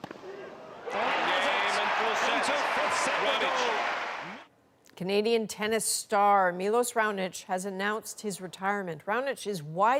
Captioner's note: cheers and Applause